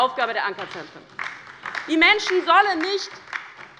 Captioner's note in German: Beifall bei der LINKEN